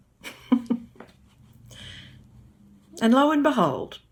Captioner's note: chuckles